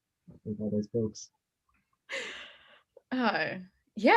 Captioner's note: laughs